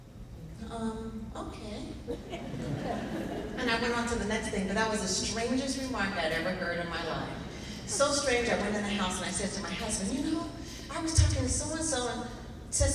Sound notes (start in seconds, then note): 2.0 laughing